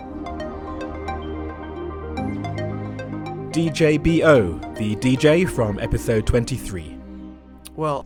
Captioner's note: voiceover